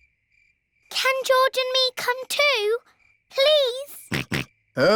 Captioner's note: snorts